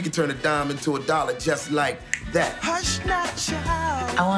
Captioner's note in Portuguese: estala os dedos